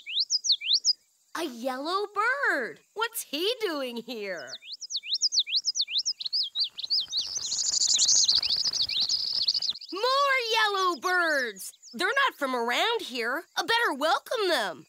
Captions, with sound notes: A YELLOW BIRD! WHAT'S HE DOING HERE? (BIRD CHIRPS) (BIRDS CHIRP) MORE YELLOW BIRDS! THEY'RE NOT FROM AROUND HERE! I BETTER WELCOME THEM!